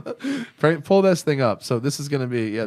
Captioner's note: laughter